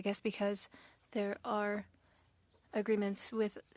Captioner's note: speaking French